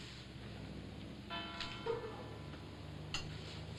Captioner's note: bells tolls outside